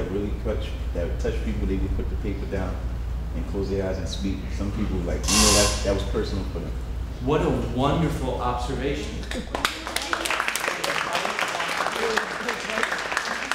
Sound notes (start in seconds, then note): 9.3 applause